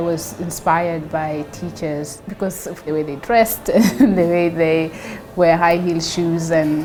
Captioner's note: laughs